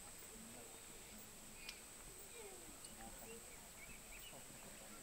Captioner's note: laughs